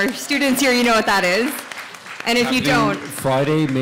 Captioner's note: audience applauds